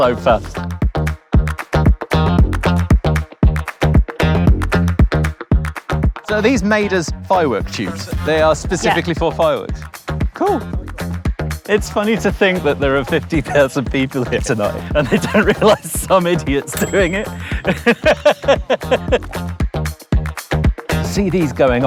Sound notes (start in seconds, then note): 0.3 funky upbeat music continues; 16.6 bell dings; 16.9 laughs